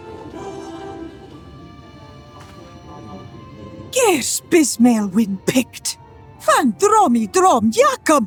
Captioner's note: speaking in foreign language